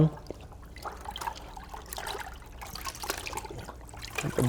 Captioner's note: splashing